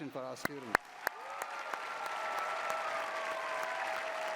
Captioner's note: cheering